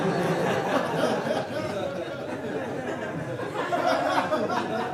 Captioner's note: audience laughing